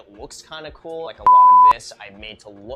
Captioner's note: beep